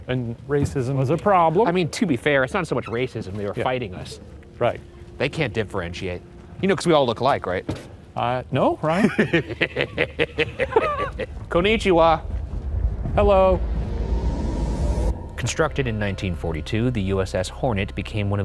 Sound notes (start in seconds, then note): 8.9 chuckles